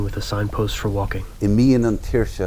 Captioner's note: gentle breeze